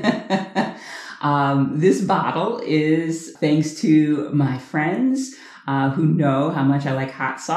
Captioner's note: laughter